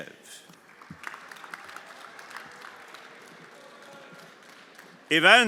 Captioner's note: everyone applauding